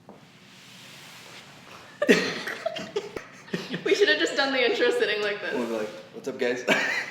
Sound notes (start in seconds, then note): 2.0 both laughing